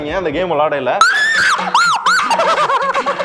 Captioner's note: screams